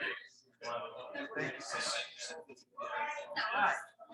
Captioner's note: people chattering indistinctly